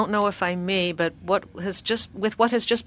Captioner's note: speaking French